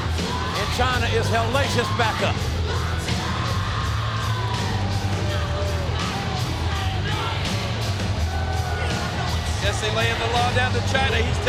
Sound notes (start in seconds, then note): 3.2 upbeat rock music; 3.2 vocalist yelling